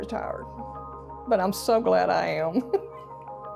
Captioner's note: chuckles